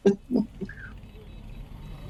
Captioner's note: sounds of traffic